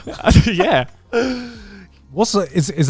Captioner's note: laughing